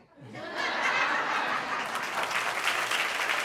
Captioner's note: laughter and applause